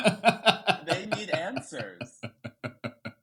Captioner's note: laughing